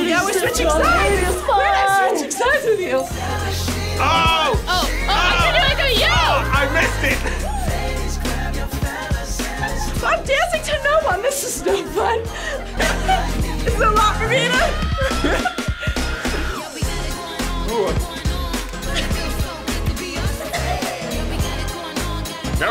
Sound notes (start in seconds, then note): 7.3 laughs; 13.0 laughs; 14.2 both laugh